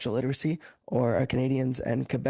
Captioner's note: speaking French